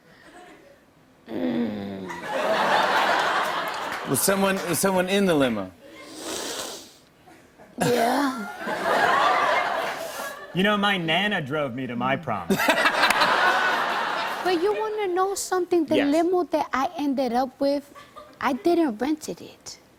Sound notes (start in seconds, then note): 2.1 laughter; 6.0 inhales deeply; 8.4 laughter; 12.5 laughter